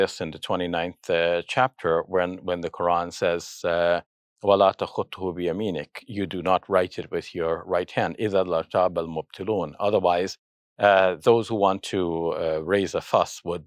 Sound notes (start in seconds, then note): 3.5 speaks in Arabic; 8.6 speaks in Arabic